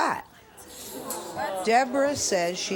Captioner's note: audience murmurs